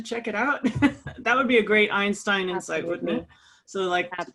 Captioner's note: laugh